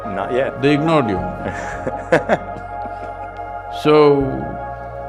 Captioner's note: laughs